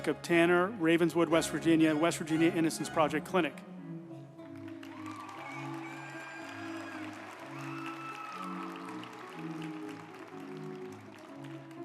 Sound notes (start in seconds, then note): 4.4 group applauding; 4.5 uplifting music